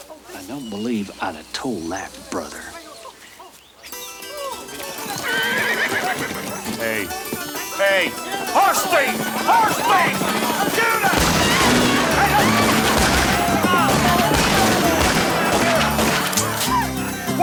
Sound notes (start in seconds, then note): 3.9 suspenseful music; 4.5 horse neighs; 11.0 gun fires; 12.2 guns fire rapidly